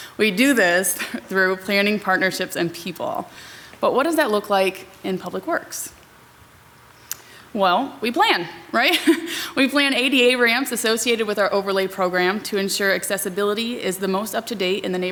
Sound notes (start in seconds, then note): 8.8 laughs